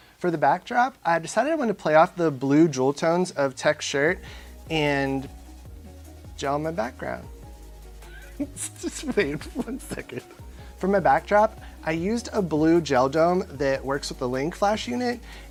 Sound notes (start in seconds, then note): 8.0 laughing